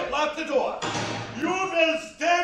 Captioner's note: door clicks